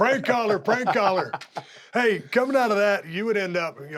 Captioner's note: laugh